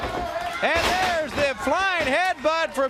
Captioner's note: crowd chatter; crowd cheering